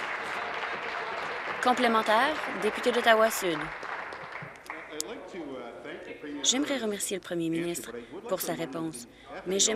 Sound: applause

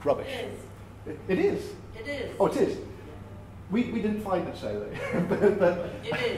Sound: laughs

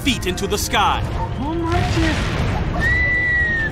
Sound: man speaking spanish

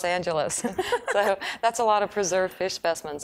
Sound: laughing

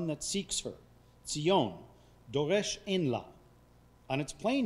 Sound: speaking foreign language

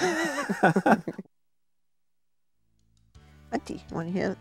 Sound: chuckling

